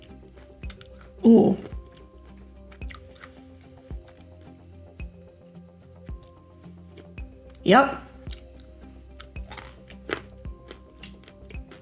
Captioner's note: crunch